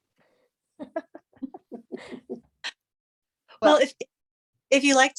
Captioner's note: laughter